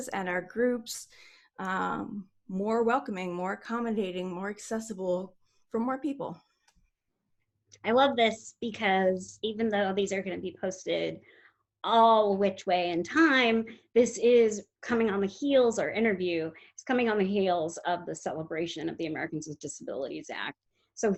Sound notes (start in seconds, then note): none